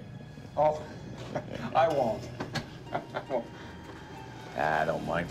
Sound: <i> chuckling</i> <i> nervously</i>

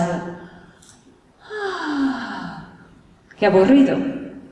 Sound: sighs

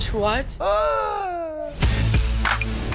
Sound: host gasps loudly; upbeat hip-hop music

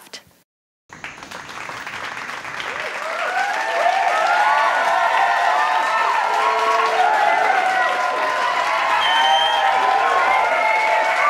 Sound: cheers and applause

